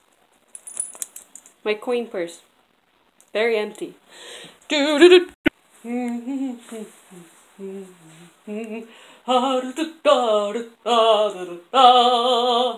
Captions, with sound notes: My coin purse. It's very empty. Dododo~ *Faint manly humming.,* "These words don't rhyme at all!"